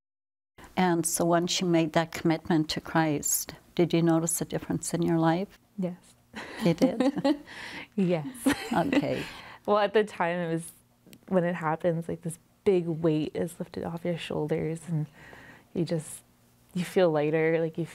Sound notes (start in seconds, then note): 6.4 laughs